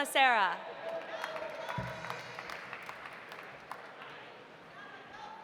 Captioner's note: audience applauding